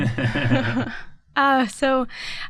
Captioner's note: laughter